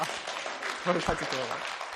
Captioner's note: applause